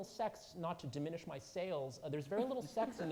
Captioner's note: audience laughing